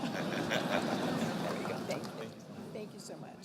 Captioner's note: laughing